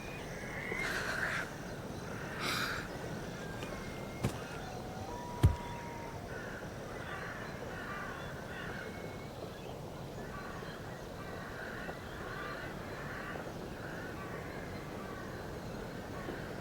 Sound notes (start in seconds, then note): 0.7 girl sobs; 4.2 owl's call; 6.9 crow cawing